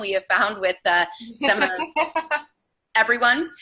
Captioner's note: laughing